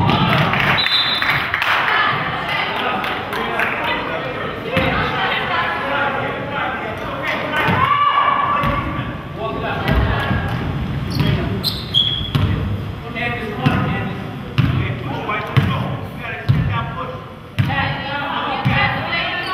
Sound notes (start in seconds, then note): 0.7 whistle blows; 2.8 crowd claps